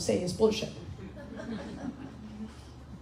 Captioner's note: crowd laughing